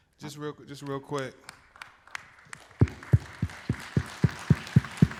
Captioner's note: applause